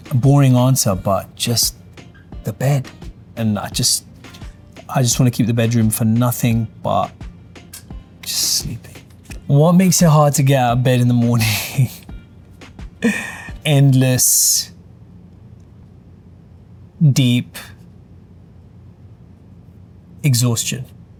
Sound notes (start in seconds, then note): 10.6 upbeat music; 11.5 laughing